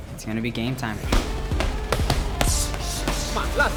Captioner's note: blows landing